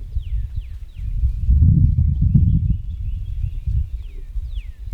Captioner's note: wind blows